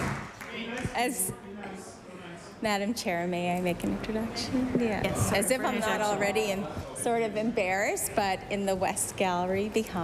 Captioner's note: applause